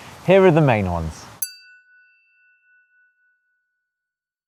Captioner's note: chiming tone